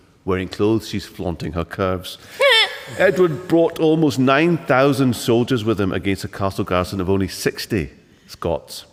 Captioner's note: laughter